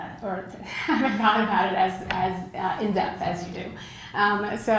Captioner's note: laugh